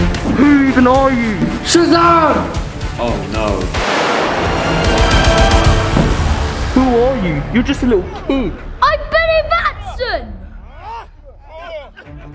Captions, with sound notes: - Who even are you? - SHAZAM! - Oh no. (lightning strike) - Who are you? You're just just a little punk. - I'm Billy Batson!